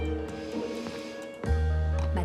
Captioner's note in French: soupirs